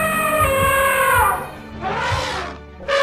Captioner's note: elephant attacking